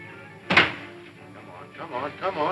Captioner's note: door closes